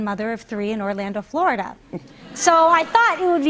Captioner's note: laughter